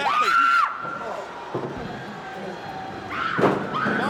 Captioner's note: Daffney screams